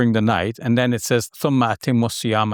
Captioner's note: speaking in Arabic